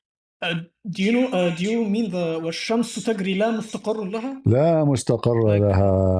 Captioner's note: Arabic